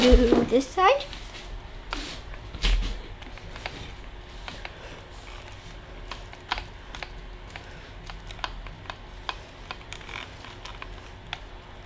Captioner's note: machine sound